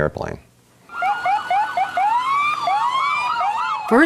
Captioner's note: sirens